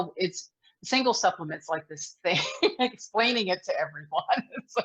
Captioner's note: laughs